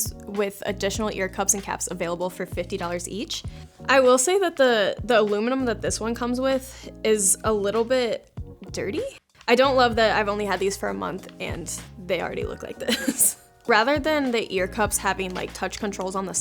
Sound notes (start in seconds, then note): 12.8 chuckles